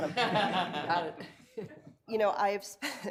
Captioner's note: people laughing